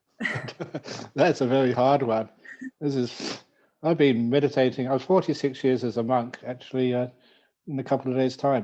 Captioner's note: laughs